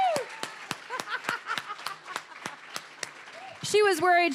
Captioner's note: applause, cheering; laughing